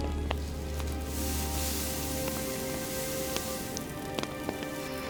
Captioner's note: rocks sizzling; breathes deeply